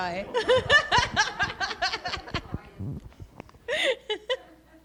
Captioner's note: laughing